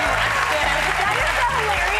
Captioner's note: applause; cheers